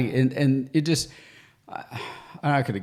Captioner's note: sighs